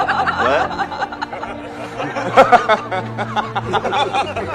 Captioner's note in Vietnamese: tiếng cười